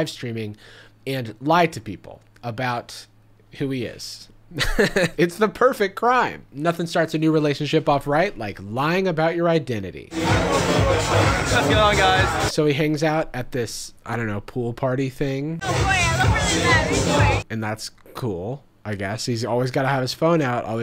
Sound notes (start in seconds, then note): 4.0 laughs; 10.1 upbeat music